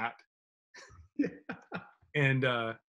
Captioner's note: laughs